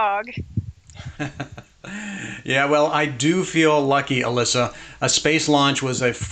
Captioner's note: chuckles